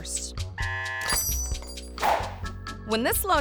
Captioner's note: buzzer buzzes; wind chimes chiming